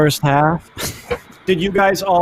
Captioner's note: laughs